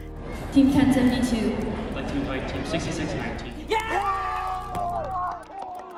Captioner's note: cheering